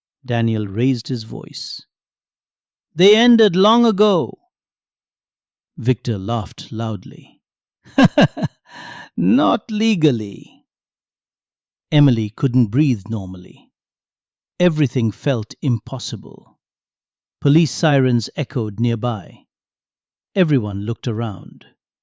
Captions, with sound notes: Daniel raised his voice. "They ended long ago." Victor laughed loudly. "[Laughs] Not legally." Emily couldn't breathe normally. Everything felt impossible. Police sirens echoed nearby. Everyone looked around.